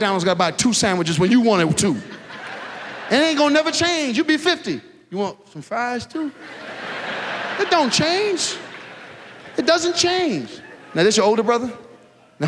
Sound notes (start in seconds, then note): 6.3 audience laughs